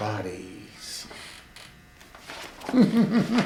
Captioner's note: laughs